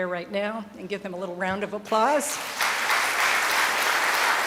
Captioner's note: applause from the audience